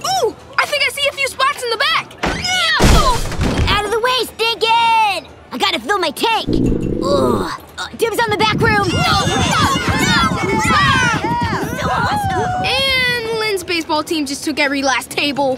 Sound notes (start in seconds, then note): 2.3 yelling; 8.8 all yelling